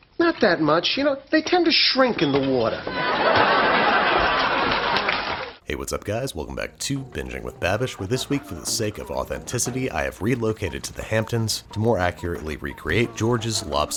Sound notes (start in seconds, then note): 2.8 audience laughs